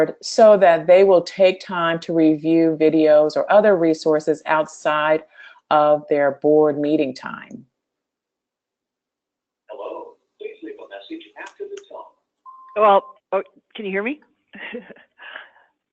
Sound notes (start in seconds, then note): 12.4 beep